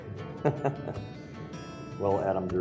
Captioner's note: laughter